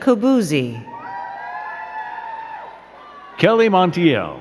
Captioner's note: crowd cheering and clapping